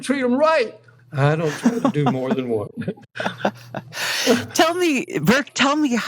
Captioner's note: laughter